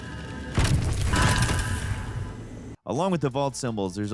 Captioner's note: gun fires